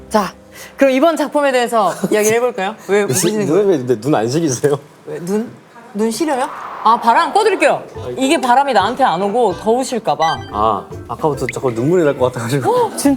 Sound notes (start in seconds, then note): 6.0 fan is blowing